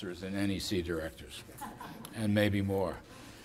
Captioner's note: laughter